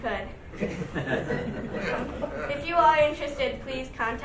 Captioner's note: laughing